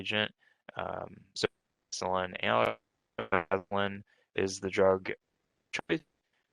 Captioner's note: faintly speaking